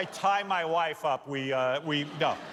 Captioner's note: laughter